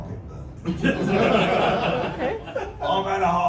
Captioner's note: laughter